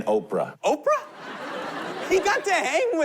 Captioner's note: laughter